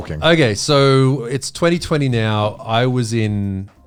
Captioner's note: all laughing